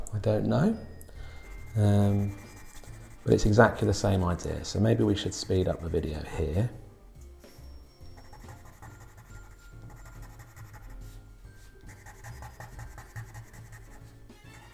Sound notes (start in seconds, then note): 8.9 pencil scratching